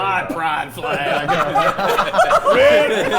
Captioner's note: players laughing